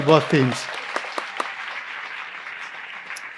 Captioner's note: applause